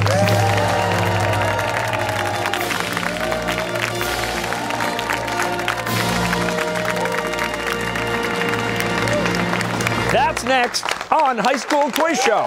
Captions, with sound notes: (fanfare) (cheers and applause) That's next on High School Quiz Show!